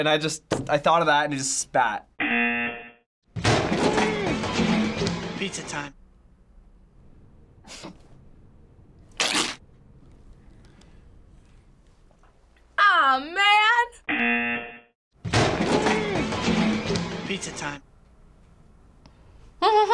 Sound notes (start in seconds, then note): 2.2 buzzer rings; 14.1 buzzer rings